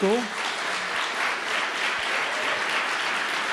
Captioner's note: applause